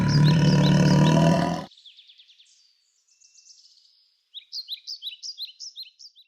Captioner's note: tiger Roar